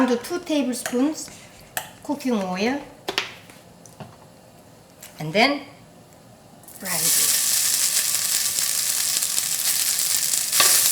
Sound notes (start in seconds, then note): 6.6 pan sizzling